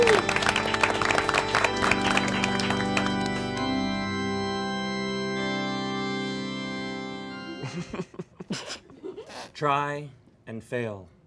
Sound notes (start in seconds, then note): 7.4 chuckling